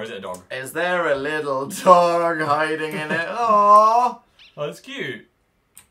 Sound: cooing

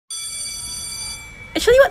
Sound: school bell rings

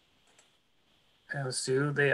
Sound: clicking

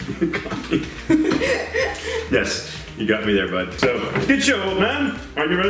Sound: laughs

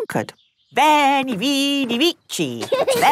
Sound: laughing

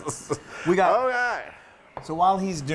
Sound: laugh

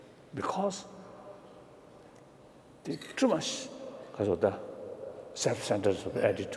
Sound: speaking foreign language

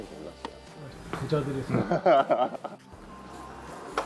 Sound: laughter

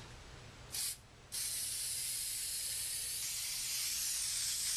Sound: spray can spraying

